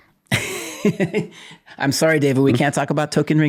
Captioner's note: laughing